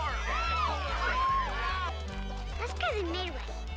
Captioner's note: crowd yelling